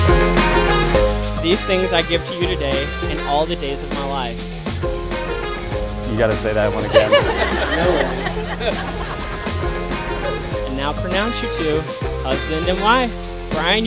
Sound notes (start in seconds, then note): 6.6 laughs